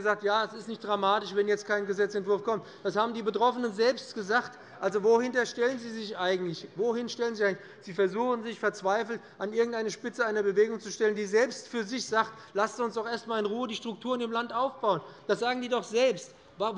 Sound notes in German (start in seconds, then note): none